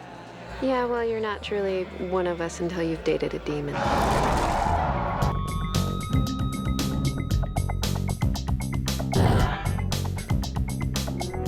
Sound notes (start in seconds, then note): 3.8 growling; 4.8 upbeat theme playing